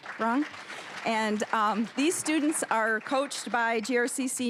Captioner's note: applause